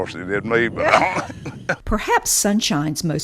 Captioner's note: laughs